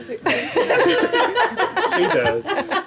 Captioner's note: laughing